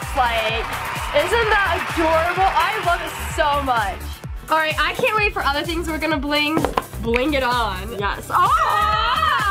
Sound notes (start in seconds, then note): 0.0 audience applause; 8.4 laughs